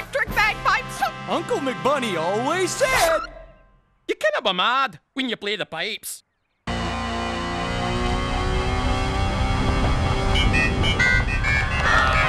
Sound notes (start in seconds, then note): 4.8 Scottish accent; 10.8 yelling